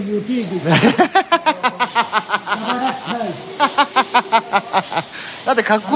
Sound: laughing

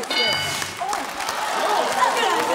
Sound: bell dings; cheering/applause

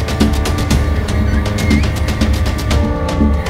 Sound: door creaking; dramatic music

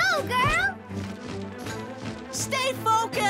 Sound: wings flapping

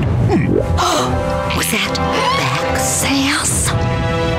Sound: gasping

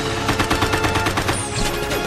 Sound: shooting

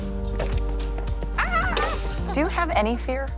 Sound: shrieking

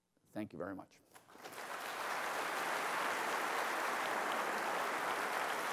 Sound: applause

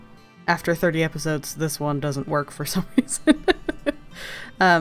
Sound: laughs

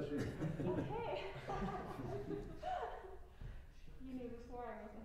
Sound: laughter

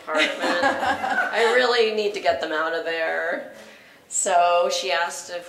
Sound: laugh

